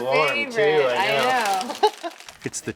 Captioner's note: laughs